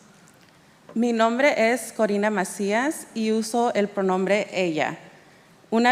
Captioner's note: speaking in Spanish